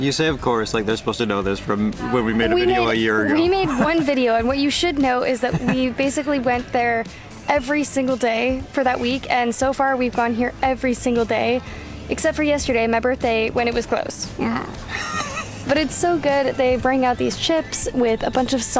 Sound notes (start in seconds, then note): 3.5 laughter; 14.8 laughter